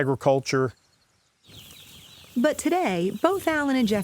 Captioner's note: chicken chirping sounds